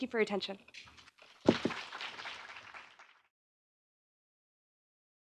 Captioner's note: audience applauds